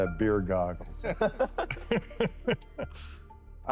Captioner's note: laughter